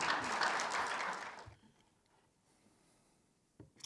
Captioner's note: audience applauds